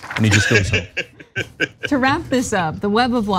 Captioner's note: laugh